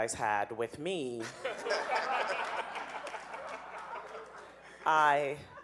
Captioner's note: audience laughing